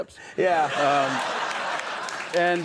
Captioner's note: audience laughs